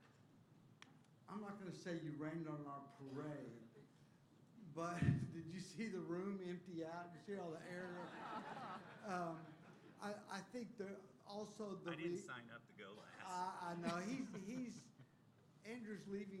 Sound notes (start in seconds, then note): 7.6 laughter